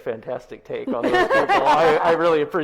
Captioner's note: both laughs